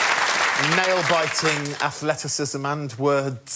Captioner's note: applause